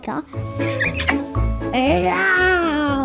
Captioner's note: kissing sound